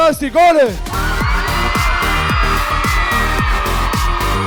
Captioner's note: audience cheering